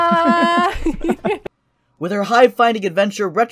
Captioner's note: both laugh